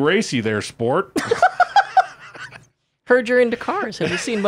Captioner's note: laughing